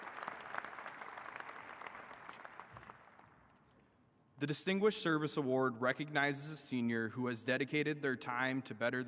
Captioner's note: applause